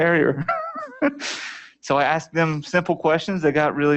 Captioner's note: laughter